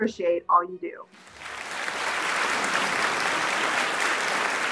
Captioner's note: audience clapping